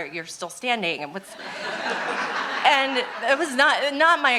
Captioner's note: audience laughing